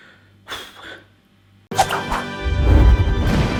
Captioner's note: upbeat music; huffs